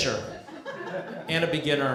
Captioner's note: laughter